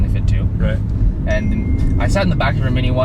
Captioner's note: phone dings